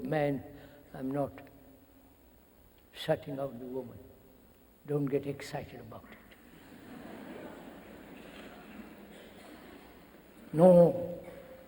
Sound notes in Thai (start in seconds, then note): 6.4 เสียงหัวเราะ